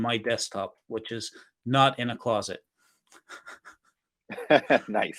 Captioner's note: chuckles